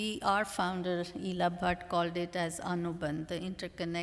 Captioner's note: non-english